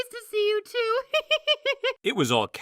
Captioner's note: clover laughs